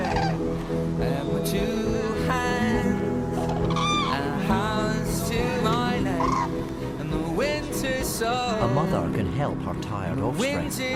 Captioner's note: sounds of crane’s honking in flight